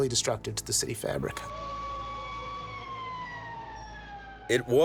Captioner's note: siren blaring